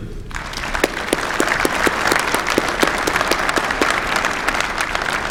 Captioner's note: applause